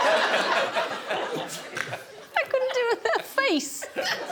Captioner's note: laughter